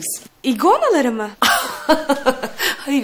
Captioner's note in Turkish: gülme sesi̇